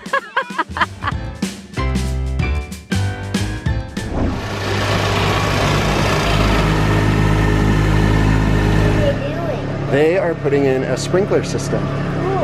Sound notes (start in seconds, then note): 0.0 laughing; 4.1 motor running